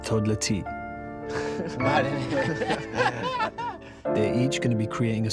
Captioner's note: laughing